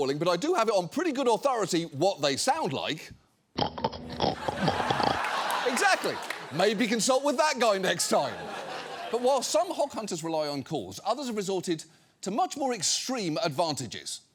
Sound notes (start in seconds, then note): 3.6 snorting; 4.3 studio audience laughing